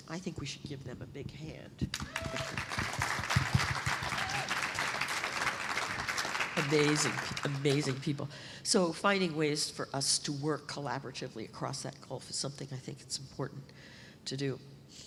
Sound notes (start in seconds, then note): 1.9 applause